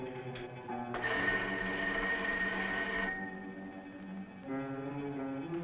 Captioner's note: phone ringing